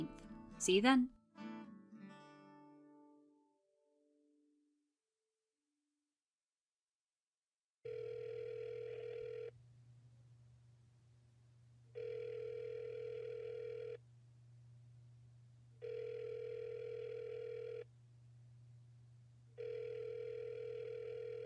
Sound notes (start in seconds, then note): 1.1 theme music resolves; 8.4 phone rings out, isn’t picked up